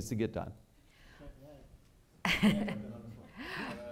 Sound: laughing

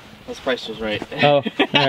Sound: laughs

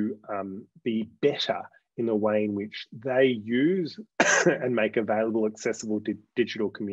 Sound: coughs

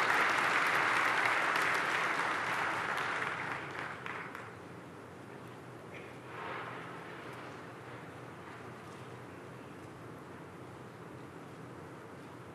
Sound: applause

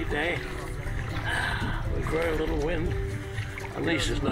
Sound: sighs

